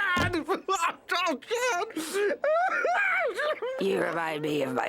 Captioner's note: blubbering